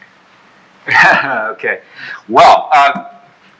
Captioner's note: chuckles